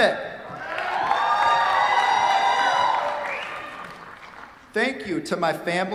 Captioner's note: cheers, applause